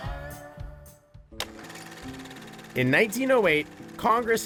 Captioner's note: shutter sound